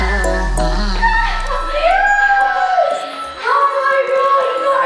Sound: cheering

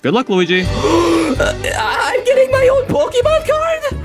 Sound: gasps

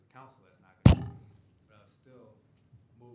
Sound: microphone thuds

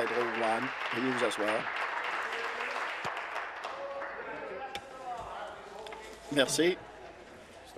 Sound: applause

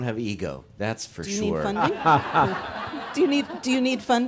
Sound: audience laughs

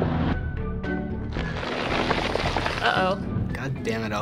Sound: ice crackles

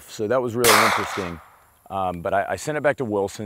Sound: gun fires

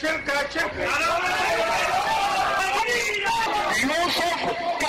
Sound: audience cheers and shouts enthusiastically

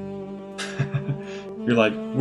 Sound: chuckles

